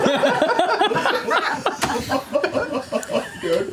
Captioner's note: laughter